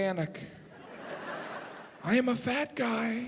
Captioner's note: audience laughing